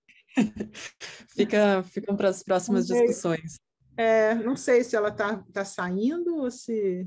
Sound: speaking in Portuguese

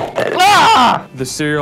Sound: yells

